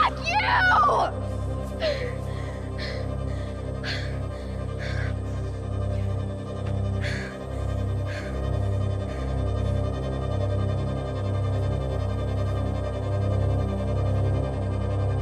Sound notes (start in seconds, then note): 1.5 Jane pants; 1.5 fast, floating music; 11.7 fast, floating music